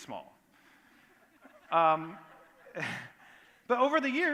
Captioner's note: laughter